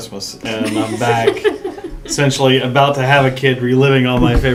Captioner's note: laugh